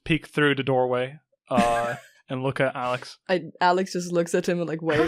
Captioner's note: Zoe laughs